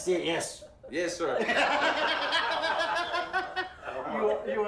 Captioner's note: group laughs